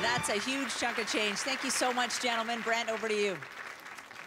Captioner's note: cheers and Applause